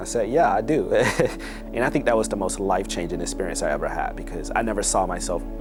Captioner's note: laughs